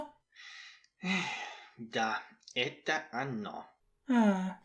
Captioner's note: sigh